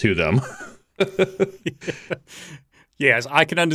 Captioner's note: laughs